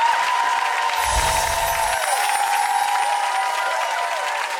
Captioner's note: audience cheering and applauding; graphic chiming